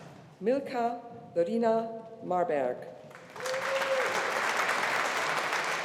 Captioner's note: audience applauding